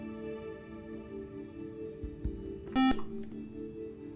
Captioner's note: buzzer